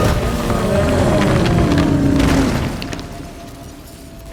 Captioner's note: growl; bellows